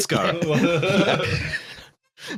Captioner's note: laughter